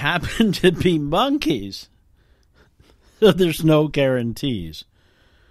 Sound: laughing

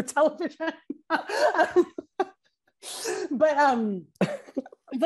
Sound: laughs

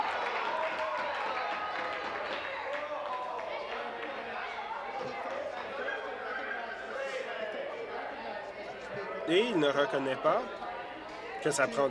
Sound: applause

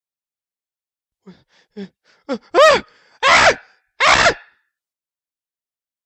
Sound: scream

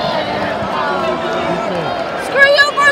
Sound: disappointed fans complaining

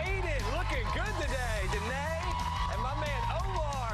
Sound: applause

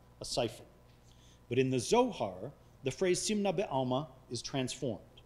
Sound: speaking foreign language

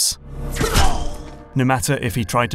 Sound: gunshot

